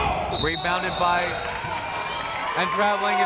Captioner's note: whistle